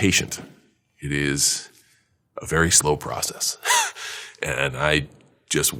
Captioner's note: laughs